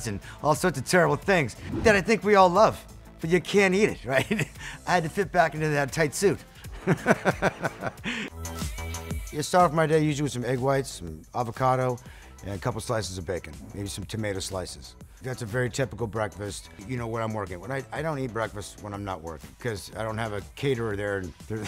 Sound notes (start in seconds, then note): 6.8 laughs; 8.4 upbeat music